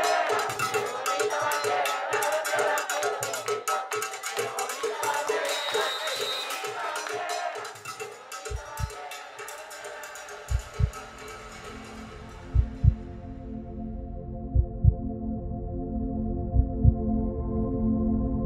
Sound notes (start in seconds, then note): 5.2 whistle blows